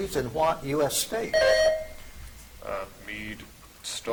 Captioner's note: buzzer chimes